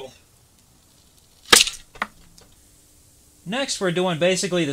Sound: metal snapping

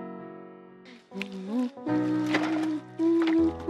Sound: humming

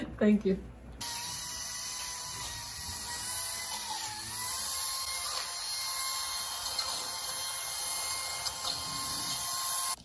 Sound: electric chainsaw sound

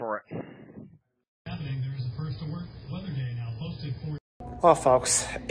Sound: "21Alive News at 4" plays in background

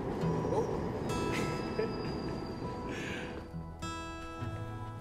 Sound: laughs

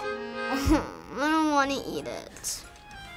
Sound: whimpering

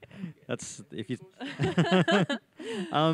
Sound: laughs

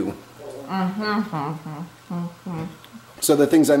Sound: mumbles

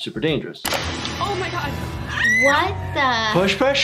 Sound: woman screaming

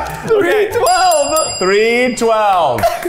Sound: timer dings; applauds

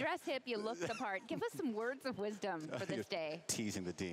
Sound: laughter

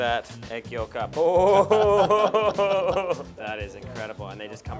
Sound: laughs

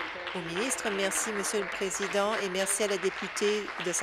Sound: applause

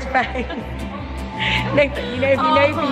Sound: laughs

